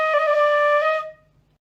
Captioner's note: horn blares